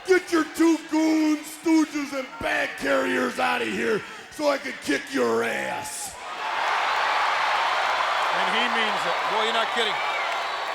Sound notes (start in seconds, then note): 6.1 audience cheering